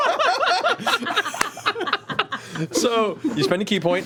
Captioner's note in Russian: смех